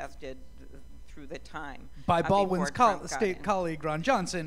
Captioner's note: none